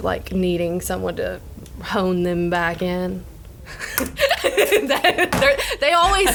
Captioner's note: laughs